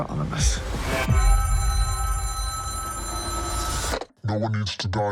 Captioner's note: telephone ringing